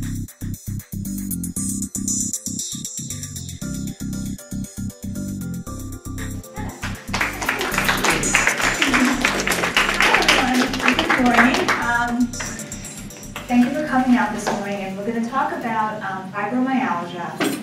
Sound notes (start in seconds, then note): 6.7 applause